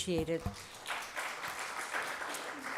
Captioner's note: applause